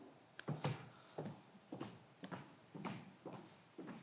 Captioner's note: footsteps approaching